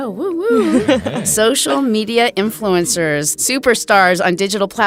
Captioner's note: chuckling